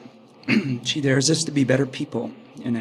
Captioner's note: clears throat